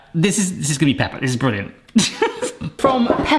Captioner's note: laughs